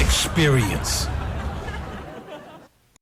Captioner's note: laughter